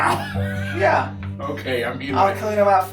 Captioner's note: laughing